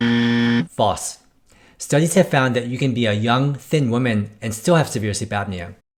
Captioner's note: buzzer